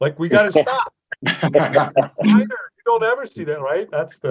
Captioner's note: everybody laughing